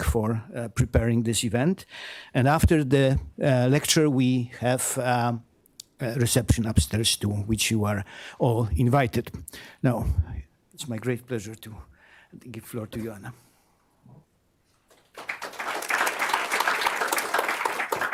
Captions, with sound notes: for preparing this event. And after the lecture, we have a reception upstairs to which you are all invited. Now, it's my great pleasure to give the floor to you, Anna. [APPLAUSE]